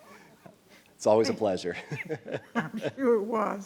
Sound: laughs

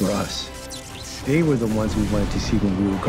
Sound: electricity zapping

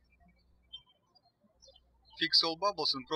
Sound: birds chirping

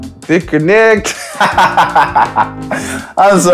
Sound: laughing

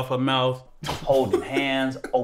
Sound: Bilal laughs

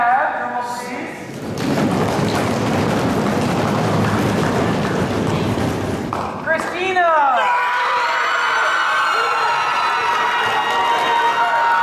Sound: audience Stomps; cheers and Applause

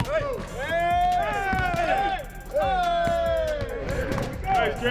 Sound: ball bounces

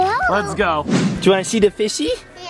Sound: whoosh

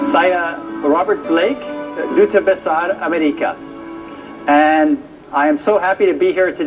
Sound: non-english speech

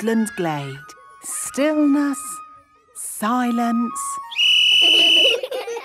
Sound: whistle blowing; laughter

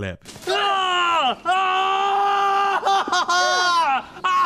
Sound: melodramatic screaming

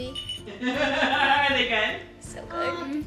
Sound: laughing

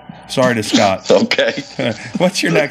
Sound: laughing

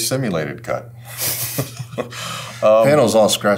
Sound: both laughing

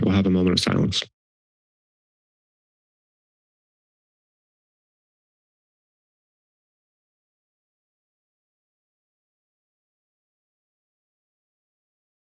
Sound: silence

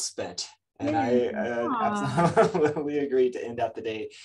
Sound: laughs

